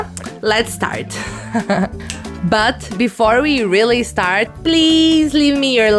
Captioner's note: laugh